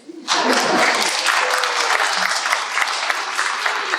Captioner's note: applause